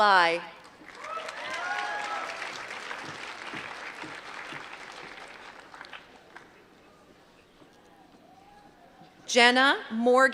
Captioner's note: applause